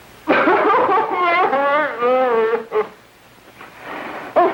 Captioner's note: sobbing